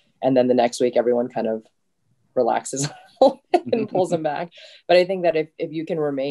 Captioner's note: giggles